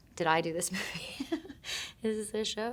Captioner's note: Shailene chuckling